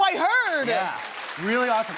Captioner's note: audience clapping